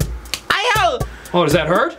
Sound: George screams

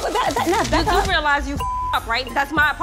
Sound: beep

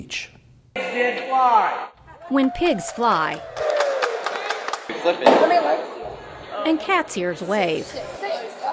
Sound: crowd cheering

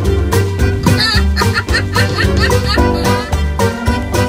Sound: laughing

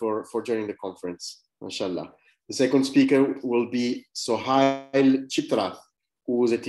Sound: speaking arabic

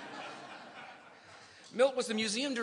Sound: laughter

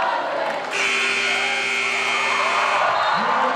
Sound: scoreboard buzzes; announcer yells; crowd cheers

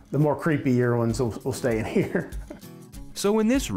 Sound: laughs

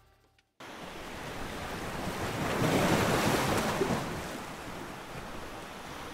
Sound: waves crashing

